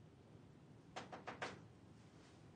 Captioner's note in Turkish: kapı vurulur